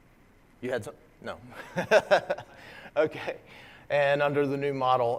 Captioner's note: laugh